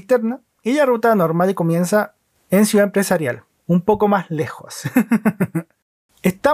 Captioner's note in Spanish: risas